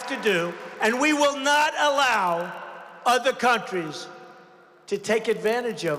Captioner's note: applause